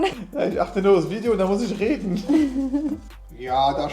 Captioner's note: laughing